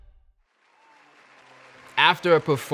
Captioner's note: audience applauds